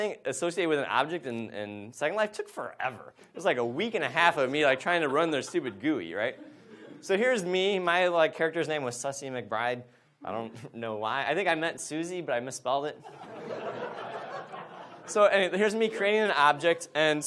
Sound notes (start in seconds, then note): 13.0 audience laughs